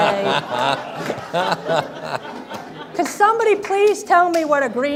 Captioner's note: everyone laughs